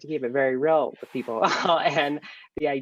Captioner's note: laughing